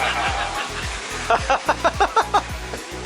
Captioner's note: laughter